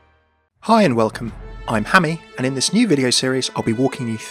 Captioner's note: voiceover